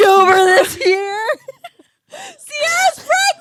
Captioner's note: both laughing